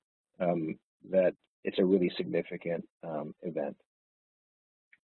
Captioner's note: audio distorts